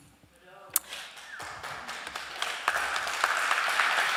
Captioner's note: applause